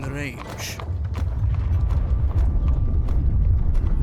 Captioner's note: distant krakuuuuum